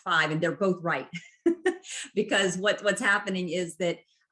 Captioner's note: laughter